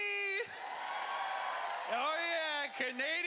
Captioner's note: cheering